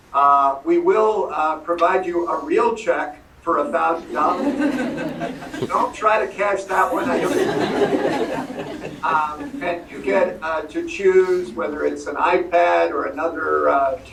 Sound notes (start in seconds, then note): 6.6 laughter